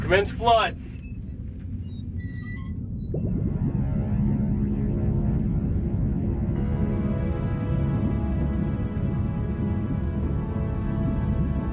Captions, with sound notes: Commence flood. (pipes squeaking) (water bubbling) (suspenseful music)